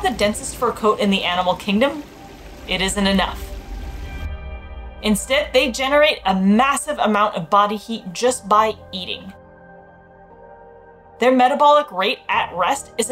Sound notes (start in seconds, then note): 2.0 background music; 2.0 gentle water noise; 3.8 background music; 9.5 background music